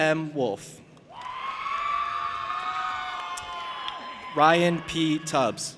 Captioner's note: audience applauding and cheering